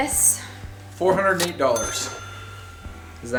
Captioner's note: male Voice